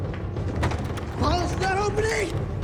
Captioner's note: intense dramatic music; door latch jangling